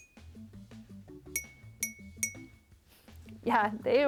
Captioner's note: jar tinking